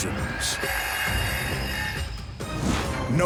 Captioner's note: blade whirring